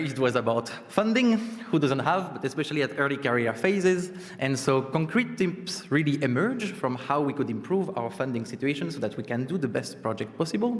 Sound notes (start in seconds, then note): none